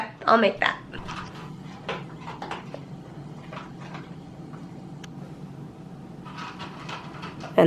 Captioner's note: crunching